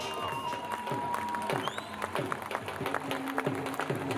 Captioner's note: crowd applauding